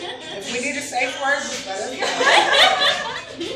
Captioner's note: laughter